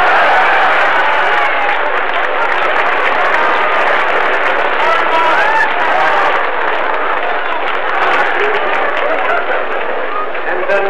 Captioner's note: applause and laughter